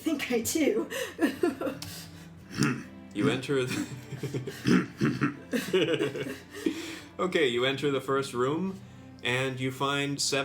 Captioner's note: MAKLAW laughs